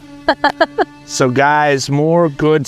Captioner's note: laughing